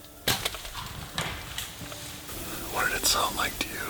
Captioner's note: bow thuds